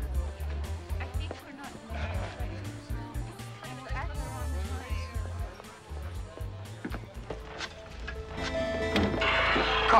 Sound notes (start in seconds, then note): 0.0 group chattering; 7.6 soft music